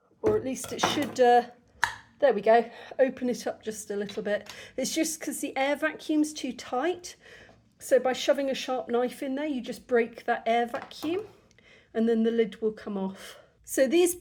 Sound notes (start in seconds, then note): 1.8 pop